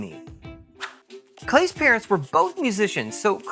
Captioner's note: swish